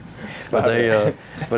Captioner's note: laughing